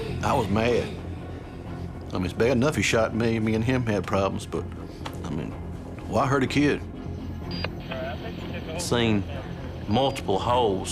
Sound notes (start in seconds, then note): none